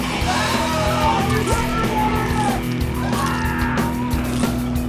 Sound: bones cracking; crowd screaming; eyeball squishes; man yells

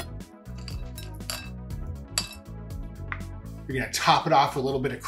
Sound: pistachios crunching; pistachios rattling

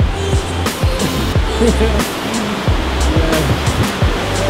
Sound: water rushing

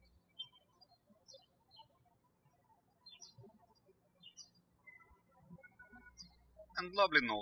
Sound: birds chirping

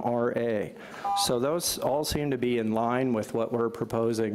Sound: beep

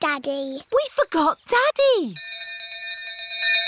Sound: bell continues dinging

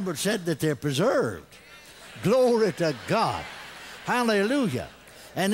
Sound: congregation laughs; congregation responds

